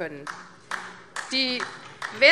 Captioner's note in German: Beifall AfD